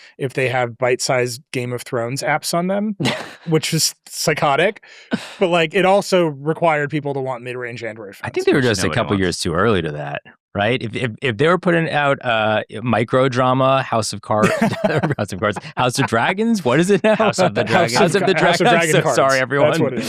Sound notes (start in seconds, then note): 14.4 laughs